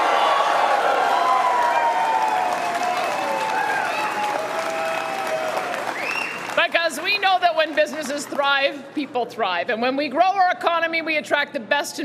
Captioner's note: cheering and Applause